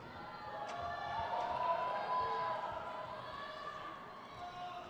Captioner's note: crowd cheers